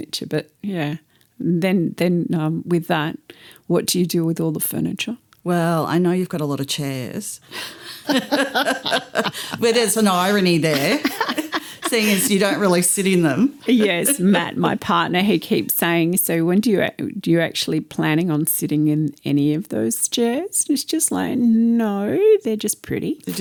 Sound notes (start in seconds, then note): 7.6 laughter